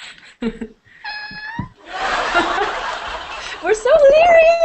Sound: laughter; hear people laugh track

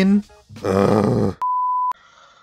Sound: groans

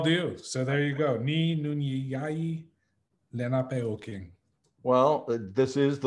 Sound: in Munsee

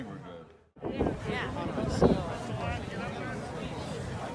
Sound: crowd murmuring

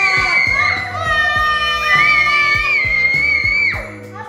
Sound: cheering

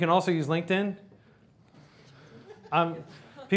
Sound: laughter

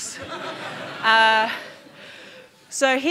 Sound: audience laughing

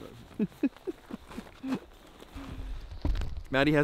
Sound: laughing

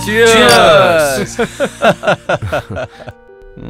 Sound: laughs

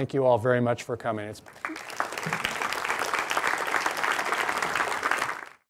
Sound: audience applauding

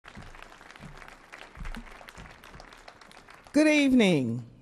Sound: audience clapping

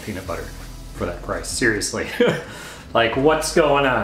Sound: laughing

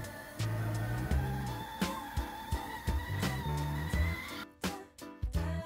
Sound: music and a whistling kettle

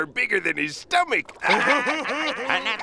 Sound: laughing

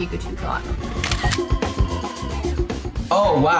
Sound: camera clicks

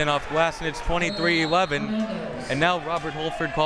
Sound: whistle tweeting

